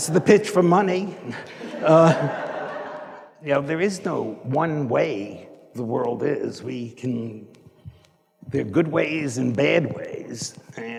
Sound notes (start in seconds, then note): 1.4 audience laughing